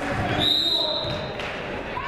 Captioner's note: whistle tweeting; people shouting in the crowd